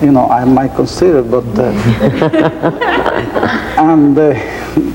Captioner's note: laughing